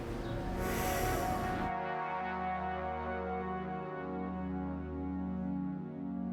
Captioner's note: James sighs